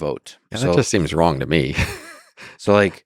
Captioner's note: laughs